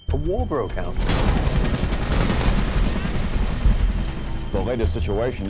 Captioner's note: exciting music; helicopter whirring